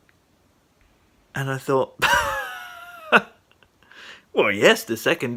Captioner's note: laughing